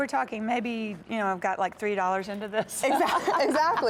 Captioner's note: laughter